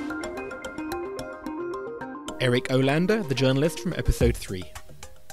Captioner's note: voiceover